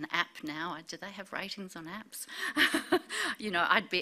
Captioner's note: laughs